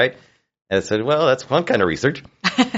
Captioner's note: laughs